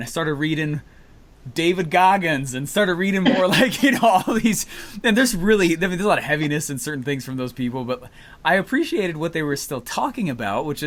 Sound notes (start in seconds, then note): 3.2 laughs